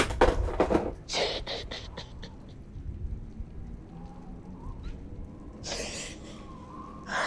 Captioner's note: sobbing